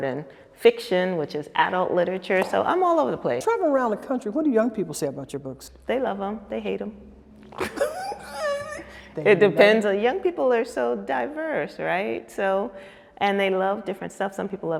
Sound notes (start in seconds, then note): 7.5 women laughing